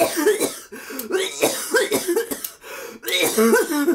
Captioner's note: laughs; coughs